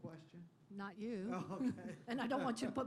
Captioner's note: laughter